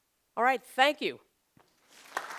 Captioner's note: applause